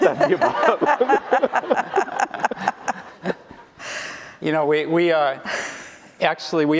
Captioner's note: laughter